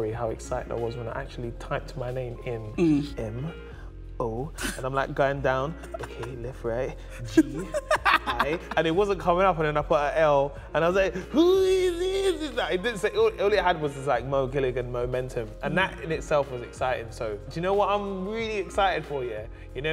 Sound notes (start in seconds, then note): 5.8 laughs